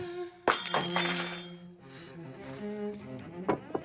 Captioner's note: spoon Clatters